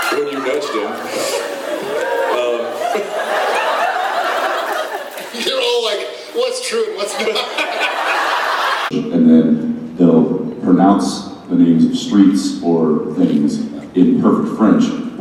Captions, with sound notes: - When you nudged him. Um... (audience whooping and laughing) You're all like, "what's true and what's not?!" (all laughing) And then, they'll pronounce the names of streets or things in perfect French.